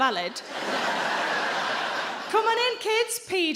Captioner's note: audience laughing